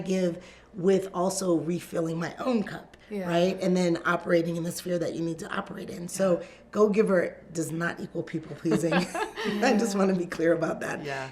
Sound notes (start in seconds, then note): 8.8 group laughs